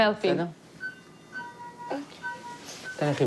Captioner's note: machine beeps; mumbles